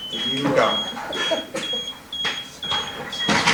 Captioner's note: laughter